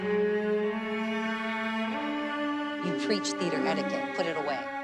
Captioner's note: wheelchair beeping